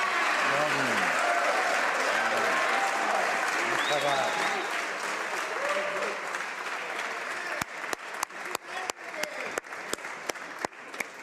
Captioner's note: applause